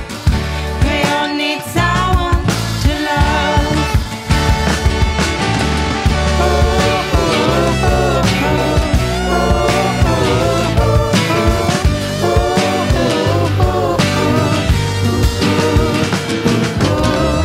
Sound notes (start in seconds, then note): 6.3 couple of oo's at the end